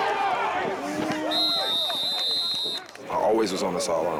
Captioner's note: whistle blows